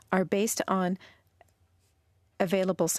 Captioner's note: speaking French